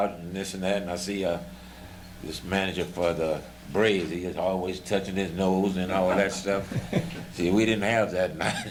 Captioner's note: laughter